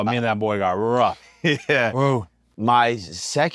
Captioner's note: laugh